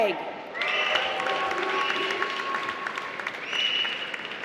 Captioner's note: applause